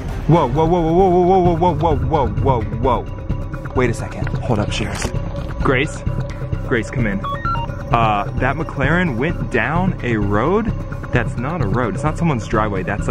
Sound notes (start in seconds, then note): 6.6 digital beeps